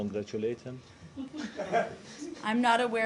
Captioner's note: laughter